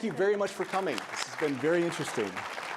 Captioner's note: attendees applauding